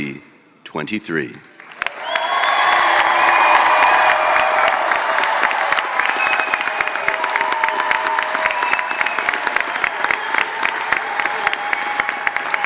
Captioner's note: applause